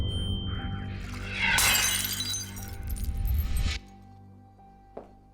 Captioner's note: glass breaking